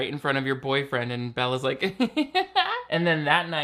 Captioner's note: giggles